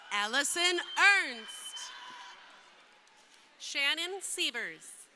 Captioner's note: crowd cheering